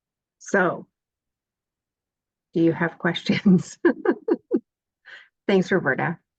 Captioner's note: chuckles